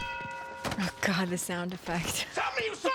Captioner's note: laughs